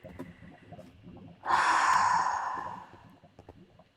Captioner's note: sigh